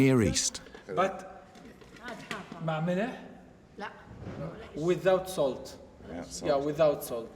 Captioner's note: speaks arabic